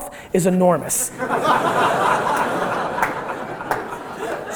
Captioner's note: audience laughter